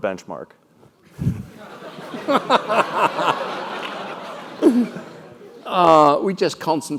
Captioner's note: laugh